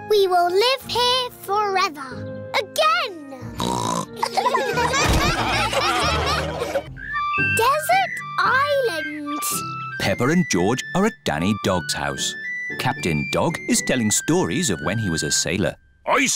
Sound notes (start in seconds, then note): 3.6 snorts; 4.2 laughter